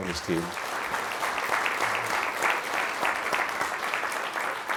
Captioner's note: crowd applauds